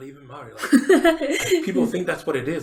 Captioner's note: laughs